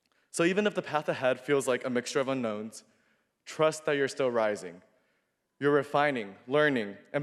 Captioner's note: none